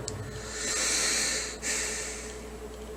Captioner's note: inhales and Exhales Deeply